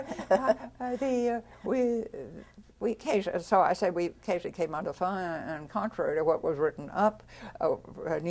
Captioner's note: laughter